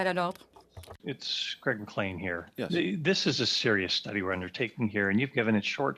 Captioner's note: speaking in French